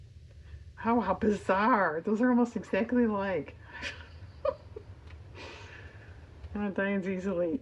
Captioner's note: laughs